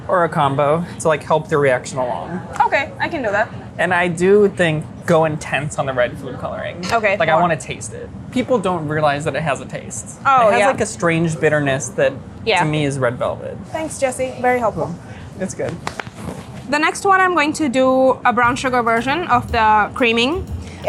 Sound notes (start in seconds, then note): 15.9 clapping